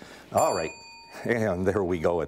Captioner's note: bell rings